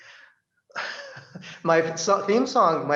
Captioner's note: he laughs